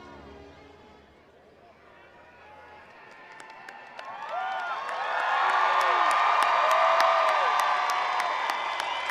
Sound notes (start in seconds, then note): 2.0 attendees cheering; 2.6 attendees applauding